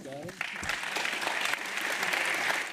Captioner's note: applause